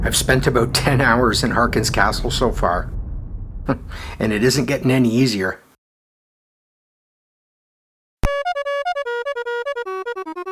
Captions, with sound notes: I’ve spent about 10 hours in Harkyn’s Castle so far… [chuckles] And it isn’t getting any easier. [chiptunes fanfare]